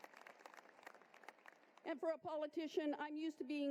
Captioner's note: applause